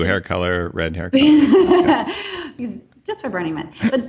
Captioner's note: laughing